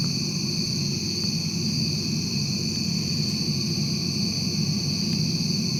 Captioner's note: crickets chirping continues